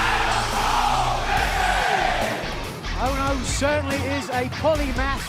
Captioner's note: fans chanting